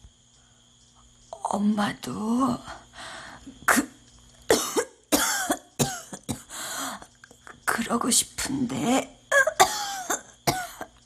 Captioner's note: coughs; he coughs again